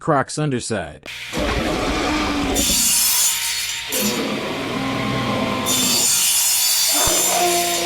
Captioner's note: sound effects